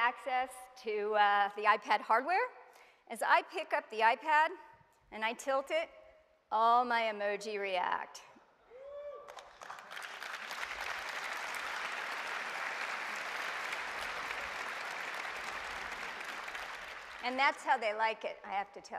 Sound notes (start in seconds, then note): 7.5 applause